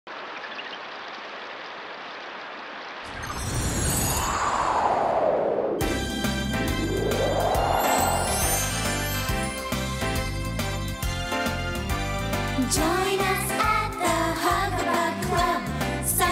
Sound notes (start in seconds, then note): 3.0 wind blowing; 3.1 tinkling; 6.1 upbeat music